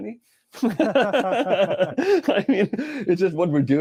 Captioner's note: laughing